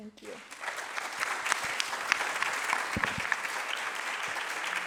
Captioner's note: applause